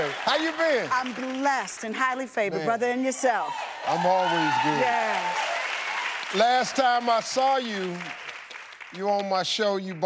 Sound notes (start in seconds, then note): 3.4 audience cheering; 3.4 audience applauding